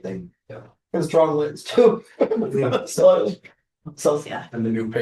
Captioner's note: laughter